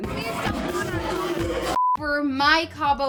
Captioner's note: screen beeps